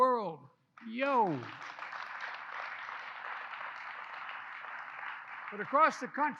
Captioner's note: applause